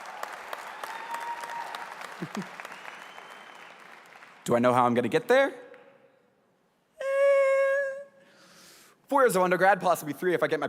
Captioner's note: applause